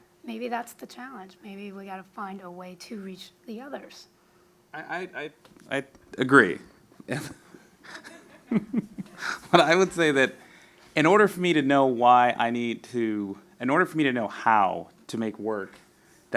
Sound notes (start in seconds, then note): 7.9 audience laughs